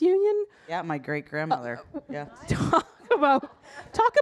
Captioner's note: audience laughing